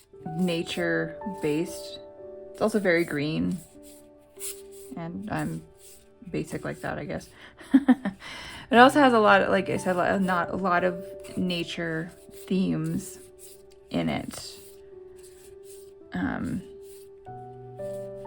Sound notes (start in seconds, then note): 7.6 laugh